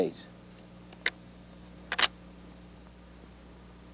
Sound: gun clicking

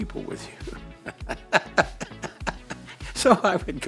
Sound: laughs

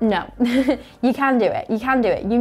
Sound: giggles

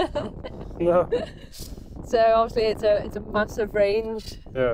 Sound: laughing

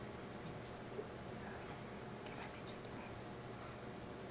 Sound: whispering

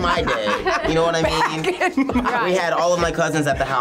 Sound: laughs

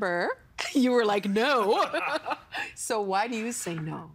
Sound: laughing

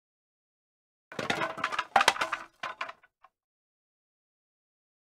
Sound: sound of falling dominoes

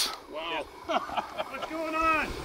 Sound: laughs

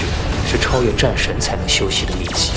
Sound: spark of Electricity

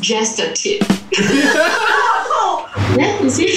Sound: laughs

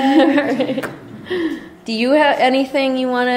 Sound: laughter, giggling

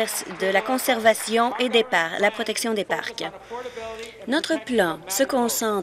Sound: applause

